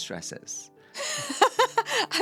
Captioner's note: laughing